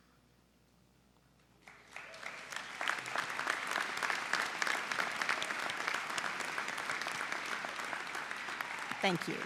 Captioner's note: applause